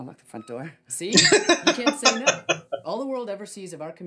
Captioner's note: laughing